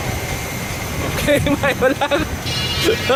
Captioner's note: laughs